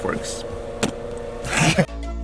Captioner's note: laughs